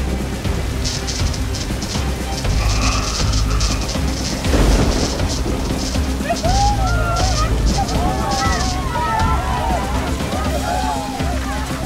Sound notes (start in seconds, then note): 0.1 electricity buzzing; 6.6 crowd cheering